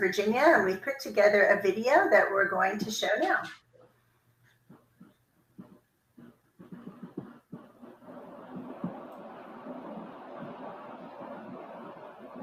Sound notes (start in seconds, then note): 5.6 upbeat music; 7.6 air whooshing